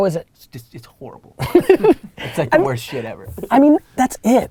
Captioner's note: Gary laughs